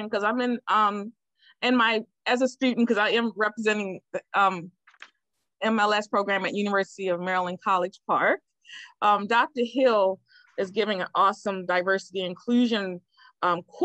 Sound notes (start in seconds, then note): none